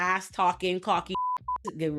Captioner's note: beep